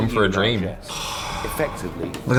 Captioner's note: loud sigh